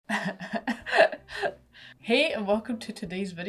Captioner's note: awkward laughing